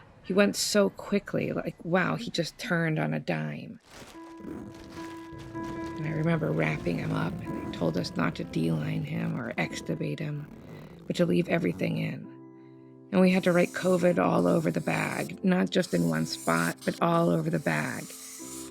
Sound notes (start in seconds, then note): 3.8 plastic crinkling